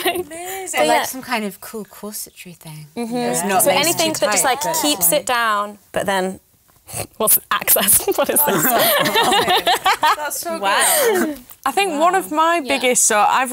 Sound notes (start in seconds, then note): 7.9 laughter; 8.0 laughs